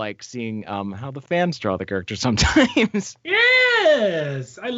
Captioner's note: laughs